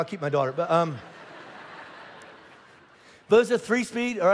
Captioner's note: congregation laughing